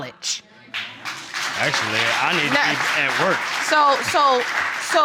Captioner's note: audience applauding